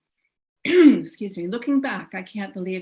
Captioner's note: coughs